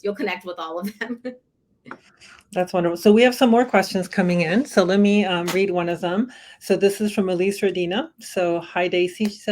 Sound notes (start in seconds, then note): 0.8 laughter